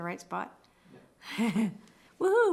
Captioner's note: laughs